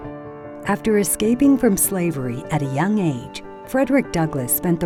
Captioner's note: voiceover